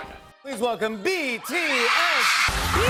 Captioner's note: screams